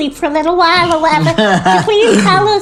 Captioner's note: laughs